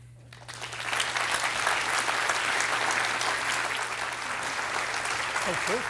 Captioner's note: applause